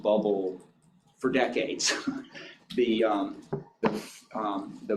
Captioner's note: chuckles